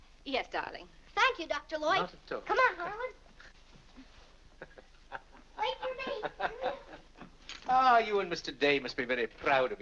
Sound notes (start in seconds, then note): 4.6 Dr. Lloyd chuckles